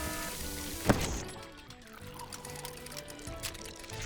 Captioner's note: alarm buzzing; exploding